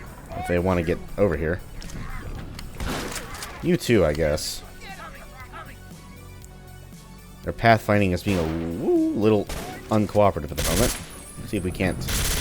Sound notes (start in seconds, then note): 2.8 shotgun blast